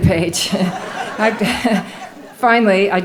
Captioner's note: laughing